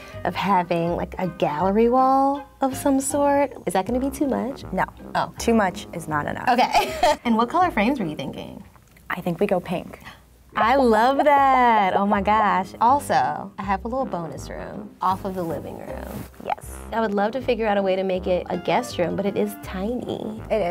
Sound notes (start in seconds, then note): 6.6 laughs; 10.0 gasp